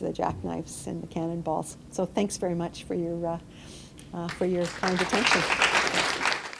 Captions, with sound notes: the jack knives, and the cannonballs. So thanks very much for your kind invitation. (applause)